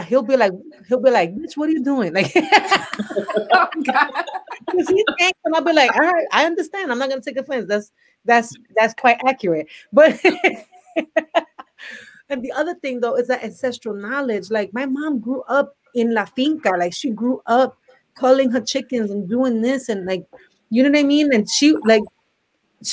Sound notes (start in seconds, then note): 5.3 laughs; 10.2 laughs